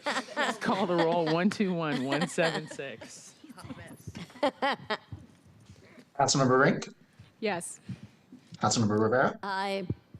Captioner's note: laughter